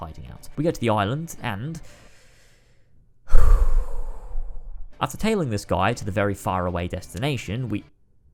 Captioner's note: deep sigh